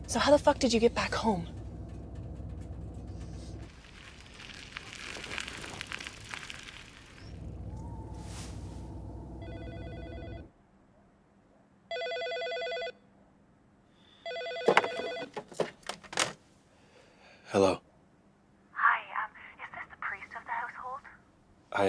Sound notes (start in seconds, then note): 4.1 gravel crunches under tires; 9.7 phone rings